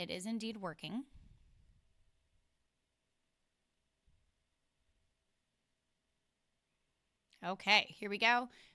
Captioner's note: silence